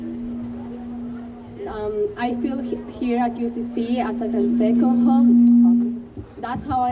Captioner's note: speaker feedback